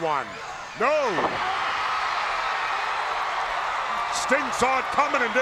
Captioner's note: crowd cheering